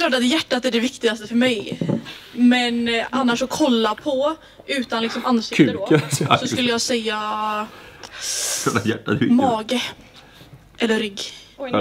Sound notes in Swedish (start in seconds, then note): 5.8 fniss